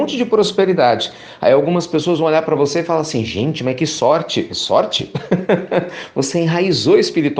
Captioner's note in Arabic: يضحك